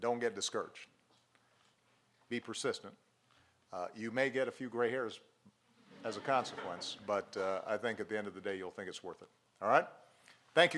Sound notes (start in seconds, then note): 5.8 laughter